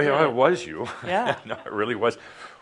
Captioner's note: Adamus chuckles